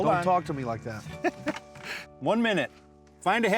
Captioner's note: chuckles